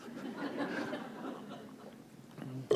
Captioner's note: laughter